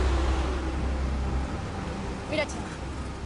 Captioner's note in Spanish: Sonido del carro